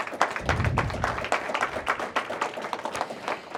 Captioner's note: applause